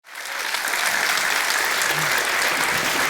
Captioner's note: applause